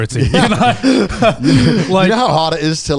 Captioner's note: all laughing